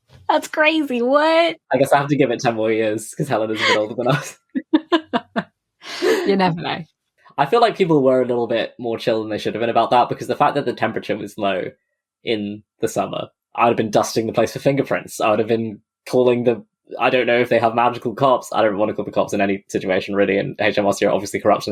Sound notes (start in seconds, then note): 1.8 laughs